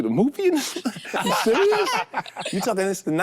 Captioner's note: group laughs